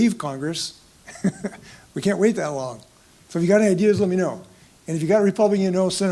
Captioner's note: laugh